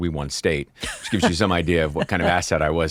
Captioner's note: laughing